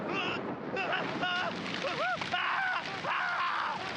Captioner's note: screams